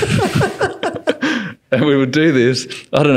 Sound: laughing

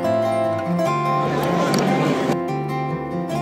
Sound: crowd murmur, button click

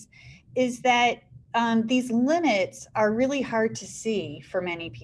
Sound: none

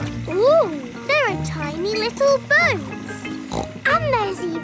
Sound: snorts

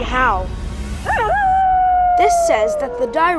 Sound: Direwolf howl

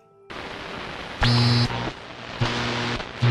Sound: static distortion

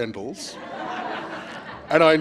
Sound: laughter

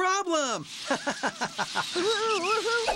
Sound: laughing

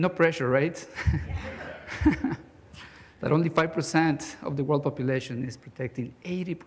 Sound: chuckles

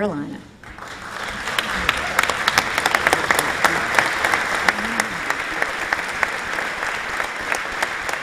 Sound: applause

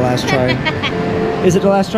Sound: laughs

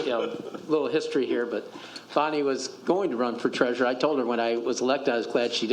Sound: laughter

